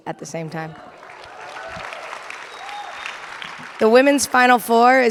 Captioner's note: audience applauding and cheering